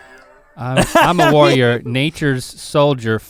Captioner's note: Rhett laughs